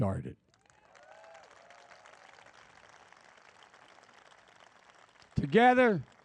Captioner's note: applause